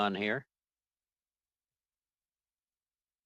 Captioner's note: silence